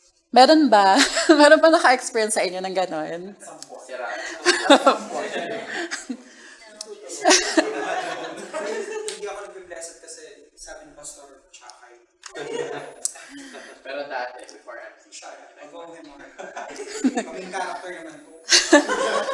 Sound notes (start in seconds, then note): 7.1 chuckles; 7.1 indistinct chatter